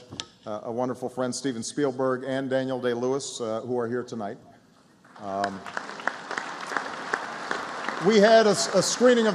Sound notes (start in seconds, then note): 5.1 applause